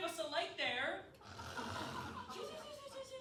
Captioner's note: snores aggressively